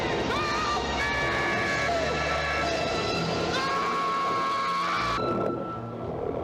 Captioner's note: screaming